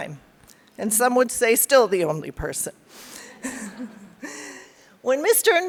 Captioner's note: laughs